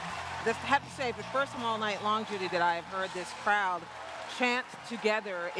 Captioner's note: cheers and applause